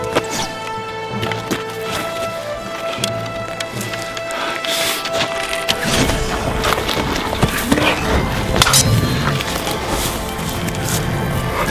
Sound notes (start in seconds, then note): 0.1 arrow whooshes; 5.8 arrow whooshes; 7.4 grunting; 8.5 swords clanging